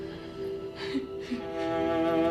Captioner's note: sobbing